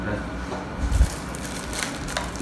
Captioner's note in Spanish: Nailon rompiéndose